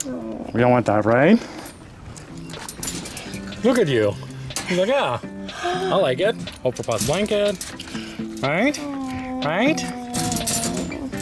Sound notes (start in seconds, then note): none